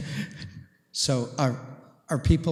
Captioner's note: chuckles